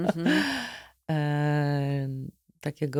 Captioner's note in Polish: śmiech; wciągnięcie powietrza